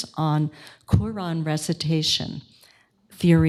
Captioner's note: none